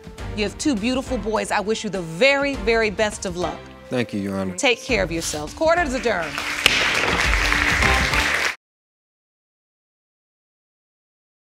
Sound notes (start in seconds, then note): 5.8 audience applauds